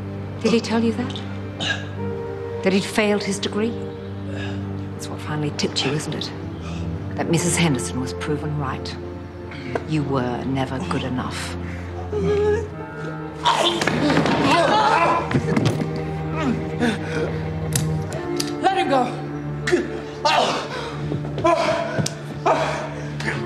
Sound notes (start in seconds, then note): 13.4 chokes